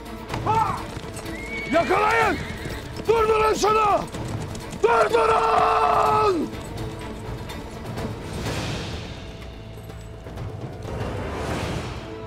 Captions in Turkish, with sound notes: Hah! (At kişneme sesi) -Yakalayın! Durdurun şunu! Durdurun!